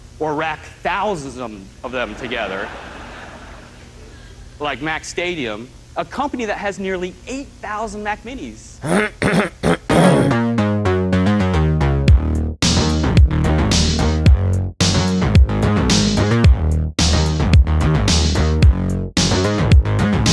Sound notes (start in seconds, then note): 8.8 ahem